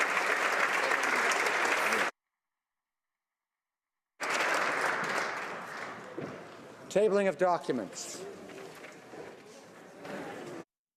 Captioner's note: applause